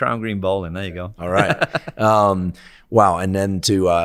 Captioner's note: laughing